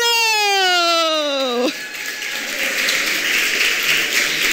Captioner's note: applause